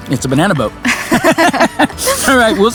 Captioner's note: both laughing